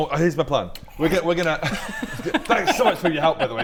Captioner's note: scoffs popcorn